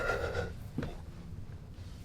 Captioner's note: sobs